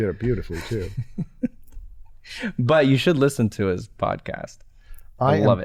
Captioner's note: chuckles